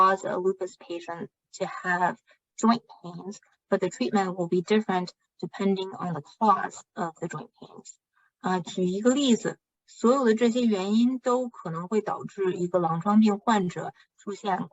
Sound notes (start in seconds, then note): 3.7 speaking chinese